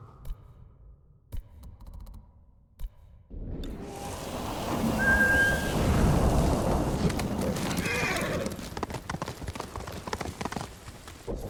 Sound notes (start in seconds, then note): 3.9 thunder rumbling; 7.7 screaming; 9.3 thunder rumbling